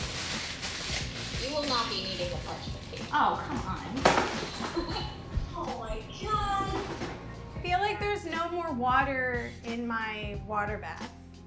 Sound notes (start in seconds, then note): 0.0 paper rustling; 4.0 cardboard thumps; 7.4 laughs